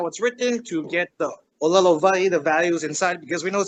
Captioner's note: speaks in Hawaiian